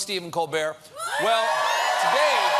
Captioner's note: applause